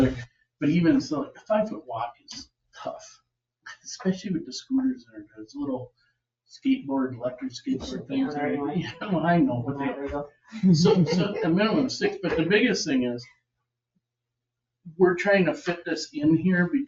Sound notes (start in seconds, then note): 10.6 chuckles